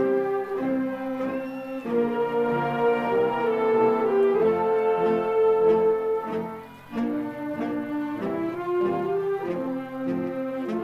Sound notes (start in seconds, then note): 4.3 applause